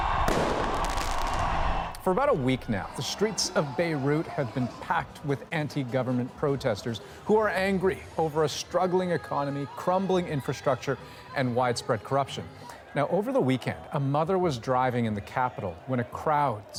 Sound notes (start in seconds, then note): 3.2 cheers and Applause